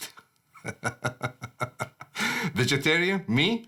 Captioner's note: laughs